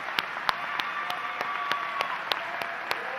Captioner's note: applause